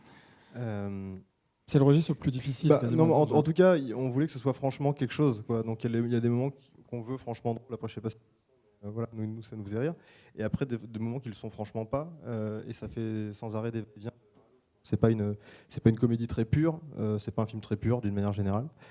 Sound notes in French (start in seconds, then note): none